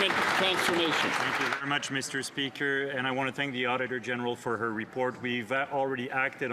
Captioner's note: some Applause